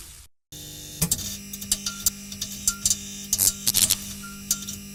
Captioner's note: electricity buzzes